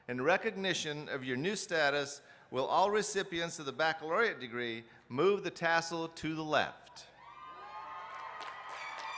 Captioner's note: applause